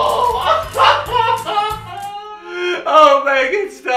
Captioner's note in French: il pleure